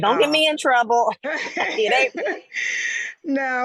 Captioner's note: laughs